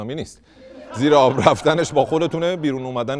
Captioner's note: laughter